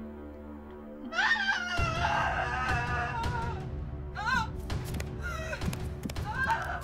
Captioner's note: intense music; Holly sobbing